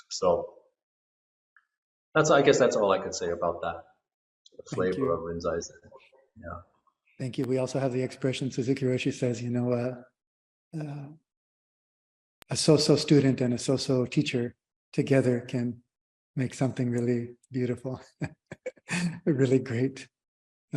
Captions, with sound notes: So that's I guess that's all I can say about that, about the flavor of Rinzai Zen. Thank you. We also have the expression Suzuki Roshi says, you know, a so-so student and a so-so teacher together can make something really beautiful, (laughter) really great